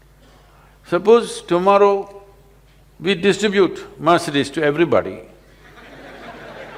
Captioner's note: laughter